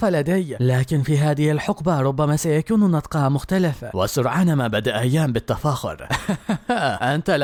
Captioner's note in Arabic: ضحك